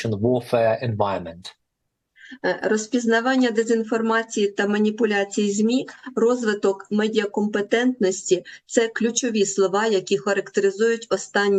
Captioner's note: foreign language